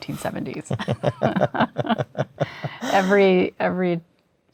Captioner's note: laughter